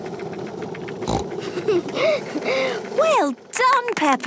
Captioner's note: giggles, snorts